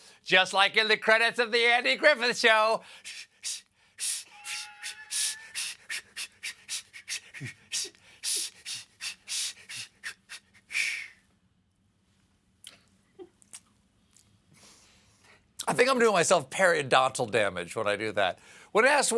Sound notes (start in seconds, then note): 5.1 whistles badly